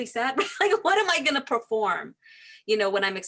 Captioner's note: laughing